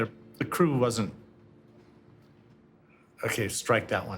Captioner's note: sniggers